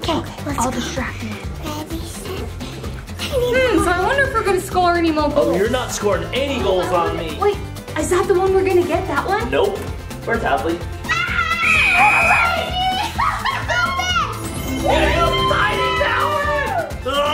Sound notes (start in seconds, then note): 11.0 screams; 13.0 mom laughs